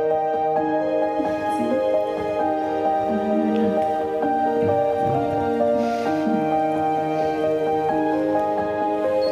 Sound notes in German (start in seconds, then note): 3.2 Zärtliches Flüstern